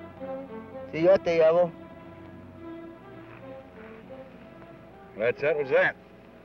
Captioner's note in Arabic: الأمريكي الأصلي يتحدث لغة أجنبية